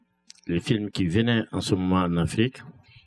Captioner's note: speaking french